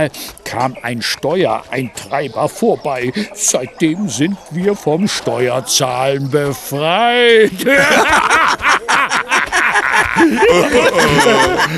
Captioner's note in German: gelächter